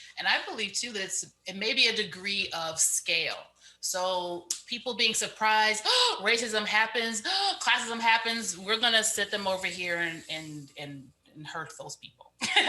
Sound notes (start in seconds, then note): 5.4 gasps; 12.4 laughs